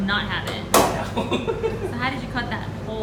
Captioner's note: laughter